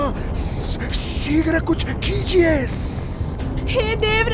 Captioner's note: hissss